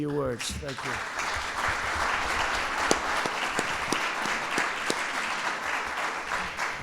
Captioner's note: applause